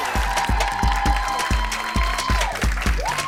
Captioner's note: cheers and applause